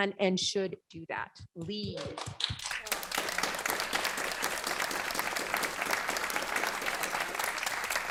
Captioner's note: applause